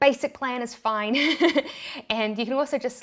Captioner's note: laughs